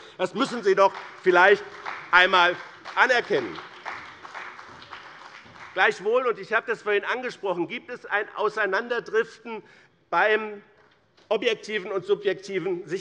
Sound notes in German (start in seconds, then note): 3.5 Beifall bei dem BÜNDNIS 90/DIE GRÜNEN und der CDU